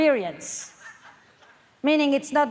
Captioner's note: audience laughs